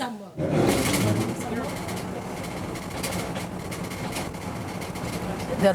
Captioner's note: sounds of driving